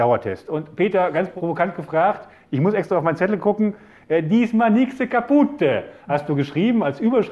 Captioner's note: in an italian accent